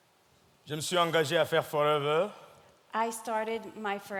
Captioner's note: speaking in French